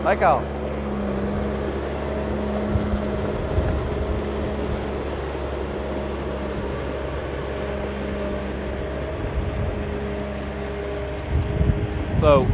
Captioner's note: engine noise